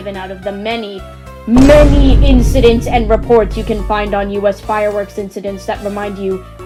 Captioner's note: Vineboom Sound